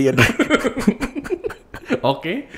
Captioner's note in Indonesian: ketawa